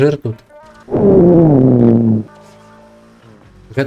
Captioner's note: sound of "gas" flow